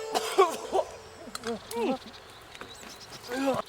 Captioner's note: Night coughing